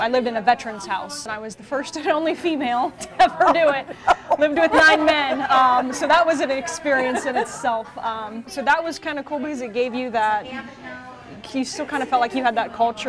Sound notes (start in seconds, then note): 4.5 ^laughter^